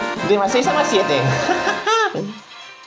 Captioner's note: laughs